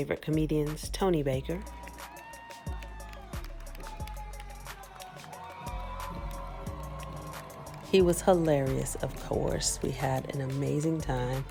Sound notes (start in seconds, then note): 6.7 applause